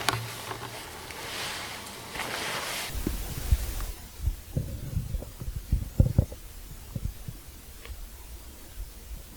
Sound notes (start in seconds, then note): 2.0 camera scratching